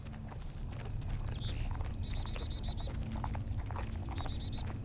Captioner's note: sniffing and licking